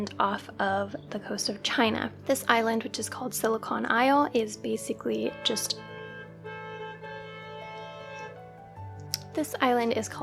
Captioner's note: car honking